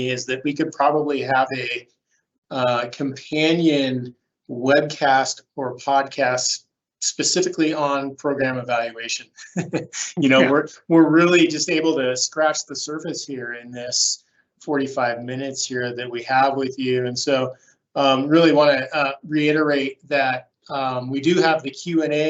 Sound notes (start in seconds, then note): 9.3 laughs